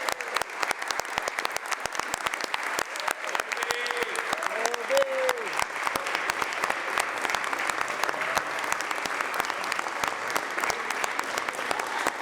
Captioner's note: cheers and applause; applause